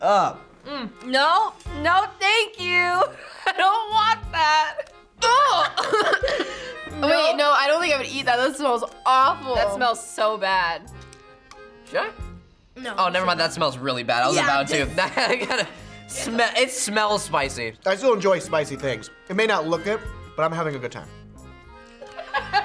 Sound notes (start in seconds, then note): 5.2 coughs; 5.2 laughs; 22.0 FBE laughs; 22.0 laughs